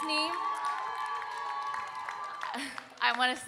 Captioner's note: audience cheering and applauding